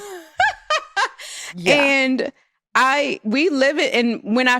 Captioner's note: laughs